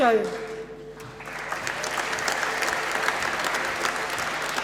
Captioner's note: applause